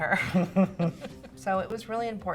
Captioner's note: laughs